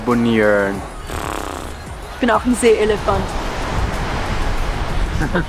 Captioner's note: snort